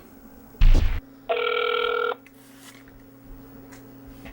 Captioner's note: telephone ringing